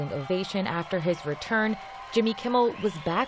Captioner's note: applause